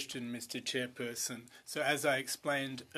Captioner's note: speaking French